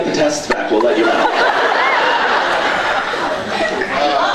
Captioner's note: laughs